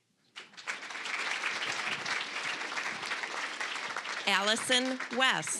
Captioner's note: applause